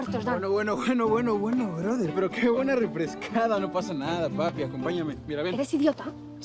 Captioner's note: Noah speaking in foreign language; Lion speaking in foreign language; Noah speaking in foreign language